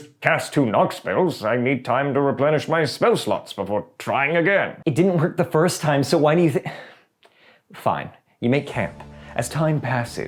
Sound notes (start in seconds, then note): 6.7 sigh